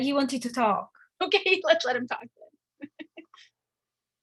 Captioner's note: laughs